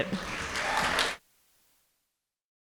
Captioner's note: audience applauding